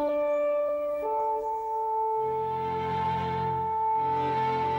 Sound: birds singing

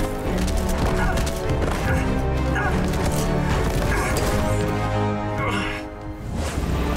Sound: grunting

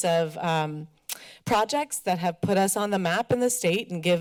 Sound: lips smack

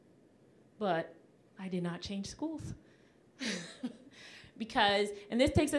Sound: chuckling

